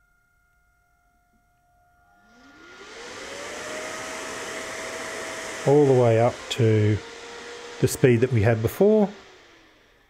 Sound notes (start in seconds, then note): 0.2 fan starts whirring quietly; 2.2 fan getting louder